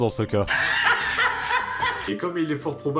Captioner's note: laughs